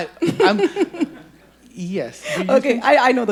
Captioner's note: audience laughing